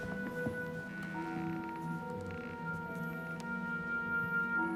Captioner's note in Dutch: vloer kraakt